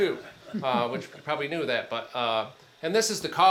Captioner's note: attendees chuckling